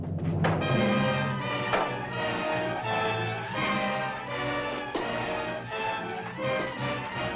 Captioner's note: suspenseful music; staffs bang; suspenseful music